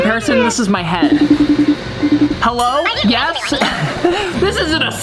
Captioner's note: phone rings; laughs